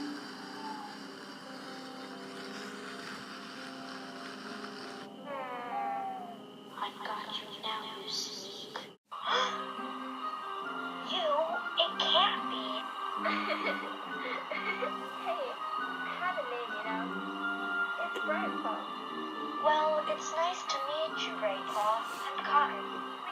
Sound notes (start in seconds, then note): 9.2 gasps in shock and surprise; 13.2 giggles